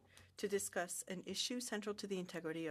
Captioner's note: speaking French